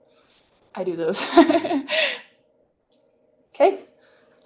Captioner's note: laughter